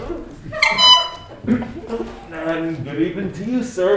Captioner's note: horn tooting